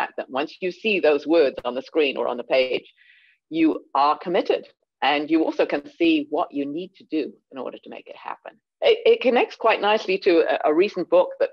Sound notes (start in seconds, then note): none